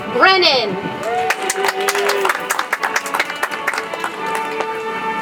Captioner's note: audience applauds; soft music